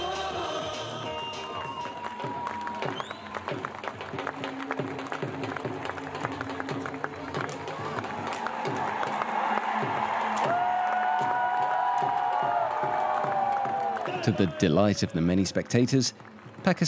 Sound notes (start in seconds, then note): 1.9 crowd applauding; 10.4 crowd cheering